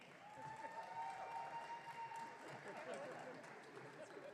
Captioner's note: audience cheering